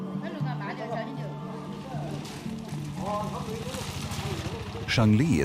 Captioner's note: speaking in foreign language